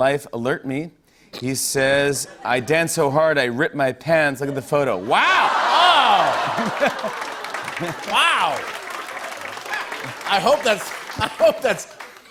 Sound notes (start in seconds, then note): 5.7 applause; 11.1 laughter